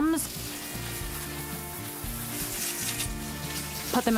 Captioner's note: hose spraying